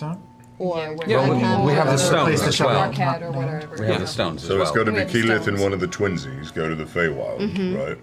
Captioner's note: none